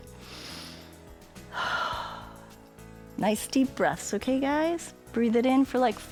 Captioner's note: inhales and exhales